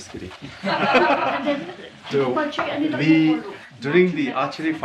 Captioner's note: office laughing